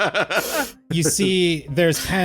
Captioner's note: laughter